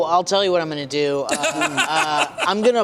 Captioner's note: laughter